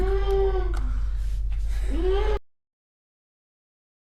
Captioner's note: Keith hyperventilating